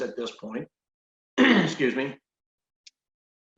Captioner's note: clears throat